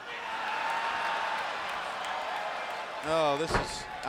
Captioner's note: fans cheering